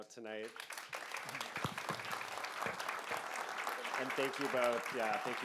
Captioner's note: audience applauding